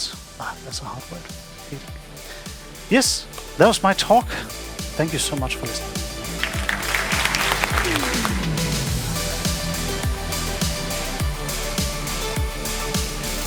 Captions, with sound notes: That was my talk. Thank you so much for listening! [Audience applauding] [Electronic music playing]